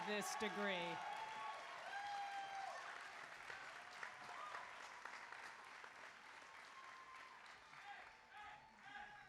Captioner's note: applause